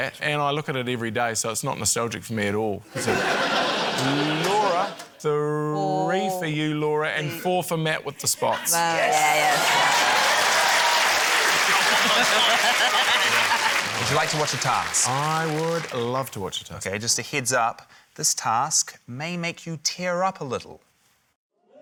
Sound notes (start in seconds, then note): 2.9 laughter; 9.0 cheering, applause; 11.6 laughs